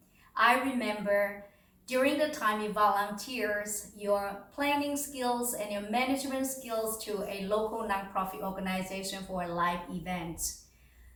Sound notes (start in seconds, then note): none